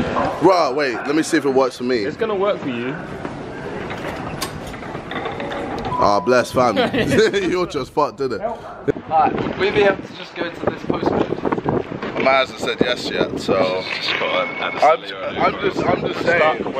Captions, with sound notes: Bruh wait, let me see if it works for me. - It's gonna work for you. - Oh, bless fam. (laughing) It's either you're just fucked, ain't it? - All right, fill me up, to just go into this post a bit. - The man hasn't said yes yet so. - This is fun. - I'm just saying.